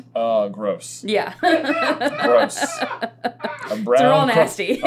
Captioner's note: laughter